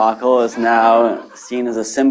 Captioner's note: laughter